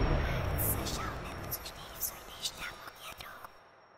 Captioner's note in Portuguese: sussurros